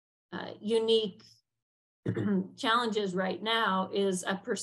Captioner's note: clears throat